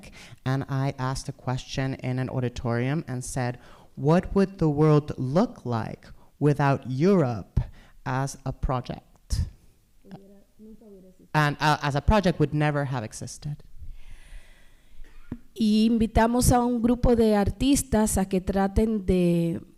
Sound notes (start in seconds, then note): 9.7 speaking spanish; 15.6 speaking spanish